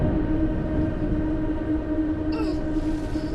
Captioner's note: coughing